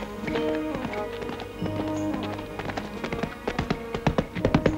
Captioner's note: horse clattering